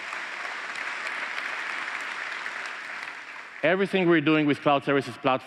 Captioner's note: applause